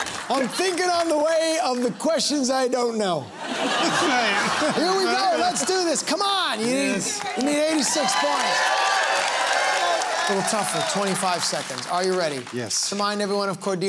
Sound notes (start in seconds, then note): 3.3 laughter; 8.5 cheering and applause